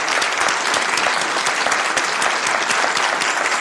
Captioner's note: applause